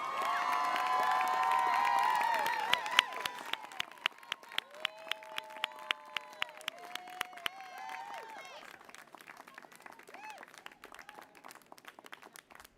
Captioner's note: applause